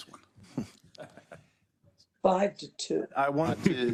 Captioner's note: laugh